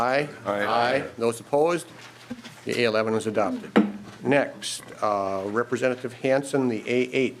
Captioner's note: chorus of ayes